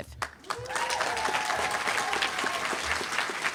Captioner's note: applause